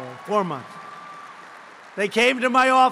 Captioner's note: applause